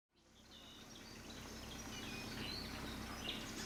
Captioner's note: birds chirping